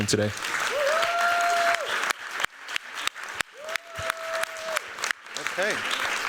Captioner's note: cheers, applause